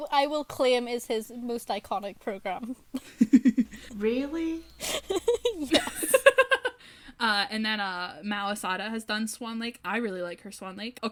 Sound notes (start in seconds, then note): 4.8 laughter